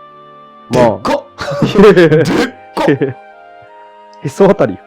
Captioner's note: laughs